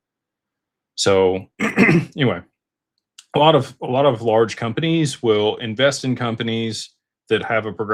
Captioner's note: clears throat